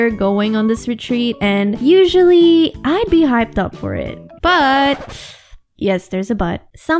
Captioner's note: record scratch